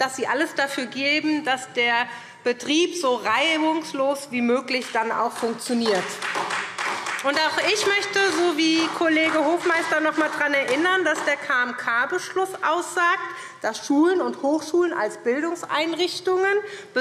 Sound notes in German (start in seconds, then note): 4.8 Beifall SPD